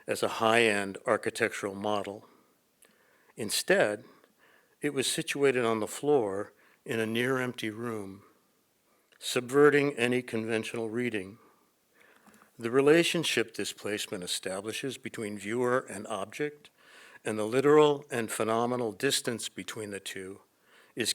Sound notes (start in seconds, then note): none